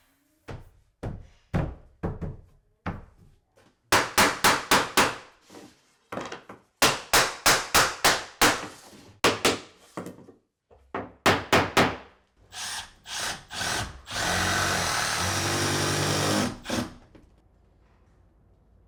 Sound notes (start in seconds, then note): 3.9 hammer pounding; 12.5 drill drilling